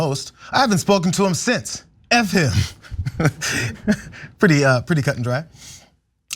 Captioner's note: laugh